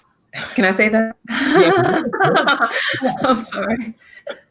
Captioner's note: laughs